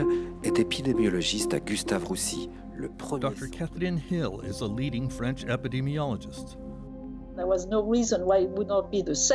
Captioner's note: speaking French